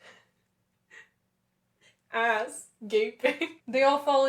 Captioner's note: laughter